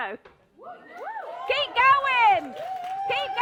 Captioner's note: applause